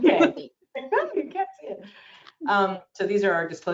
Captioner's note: laughs